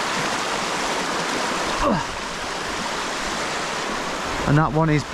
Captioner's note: grunting